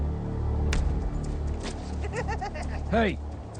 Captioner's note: laughing